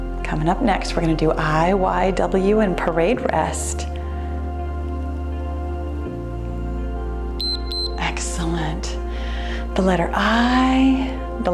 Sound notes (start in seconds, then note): 7.4 timer beeps